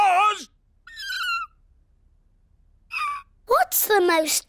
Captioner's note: squeak!